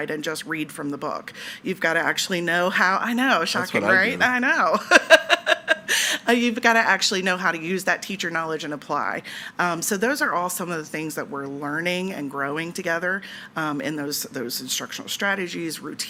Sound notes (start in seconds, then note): 3.5 laughs